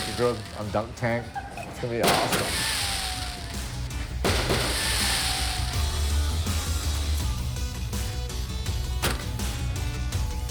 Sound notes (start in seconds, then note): 2.2 rock music; 3.7 fireworks exploding